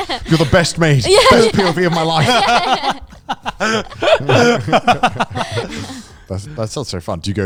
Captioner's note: all laughing